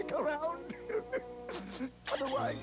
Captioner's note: crying